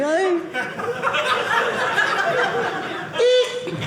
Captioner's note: audience laughing